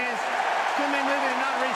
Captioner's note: cheering